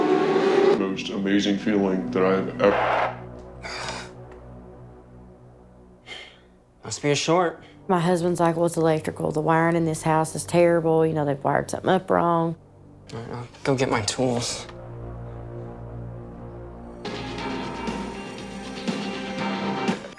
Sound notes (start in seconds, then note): 2.6 static buzzing; 15.7 upbeat music from the TV